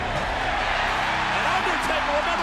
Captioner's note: audience cheers and applauds